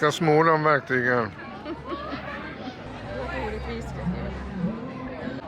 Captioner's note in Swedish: skratt